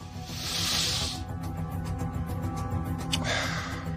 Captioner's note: inhales; exhales